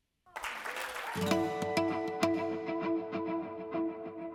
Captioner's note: applause